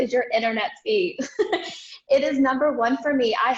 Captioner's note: laughs